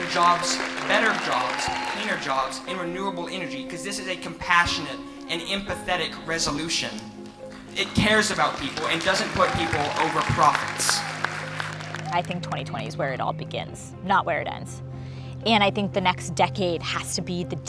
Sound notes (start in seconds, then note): 7.6 audience applauding